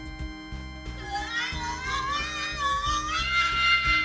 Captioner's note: yells